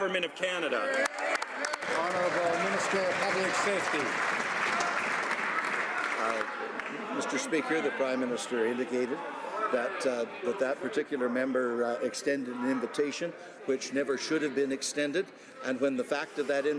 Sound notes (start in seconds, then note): 4.5 some Applause